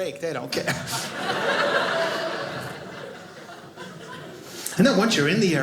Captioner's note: audience laughing